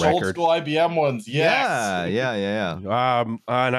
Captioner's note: chuckles